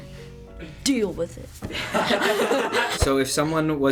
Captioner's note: everyone laughs